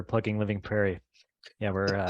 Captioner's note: chuckle